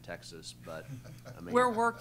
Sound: laughter

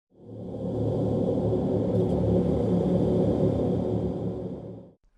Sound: spoopy sound

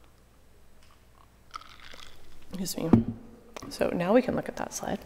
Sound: ice clacking

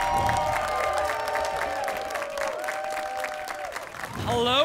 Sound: applause and cheering

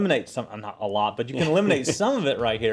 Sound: laugh

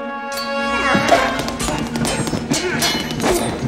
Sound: grunting

